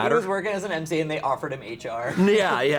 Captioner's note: laughs